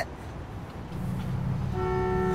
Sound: horn honks

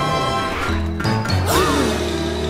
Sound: gasping

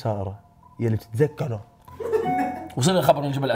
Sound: laughs

